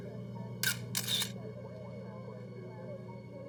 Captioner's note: click click